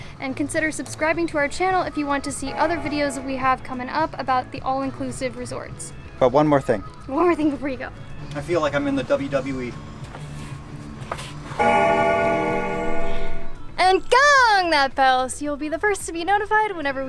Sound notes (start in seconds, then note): 11.6 bell ringing